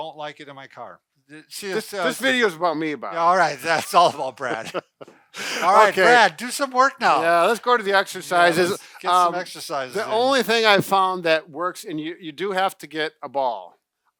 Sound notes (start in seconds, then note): 3.2 laughs